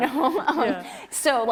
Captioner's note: laughs